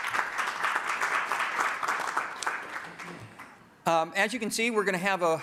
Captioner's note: applause